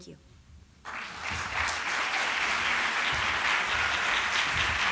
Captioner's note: applause